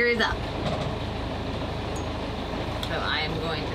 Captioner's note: waves crashing